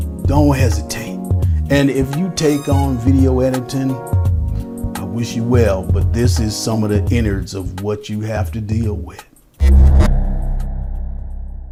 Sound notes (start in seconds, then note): 9.6 electronic tone